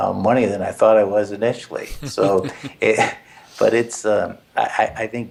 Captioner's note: laugh